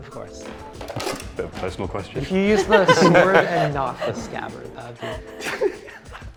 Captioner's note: laughter